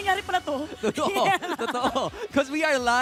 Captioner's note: giggles